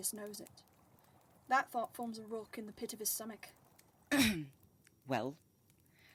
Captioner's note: Remus clears his throat